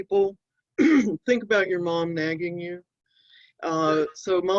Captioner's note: clears throat